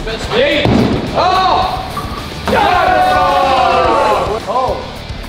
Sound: lads cheering

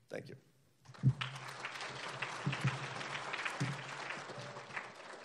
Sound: applauding

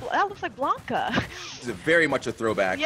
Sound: laugh

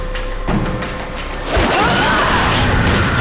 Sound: grunting

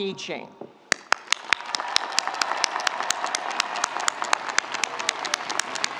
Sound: audience applauding; audience cheering

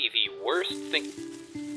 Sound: leaves rustling

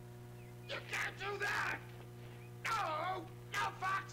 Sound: screams

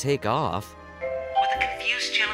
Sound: airport announcement noise

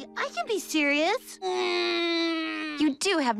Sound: grunting

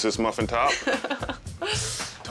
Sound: laughing

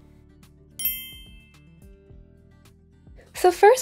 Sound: ding rings

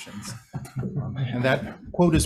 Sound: all laugh

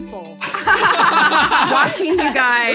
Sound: laughing

